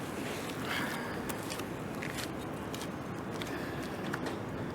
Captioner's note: footsteps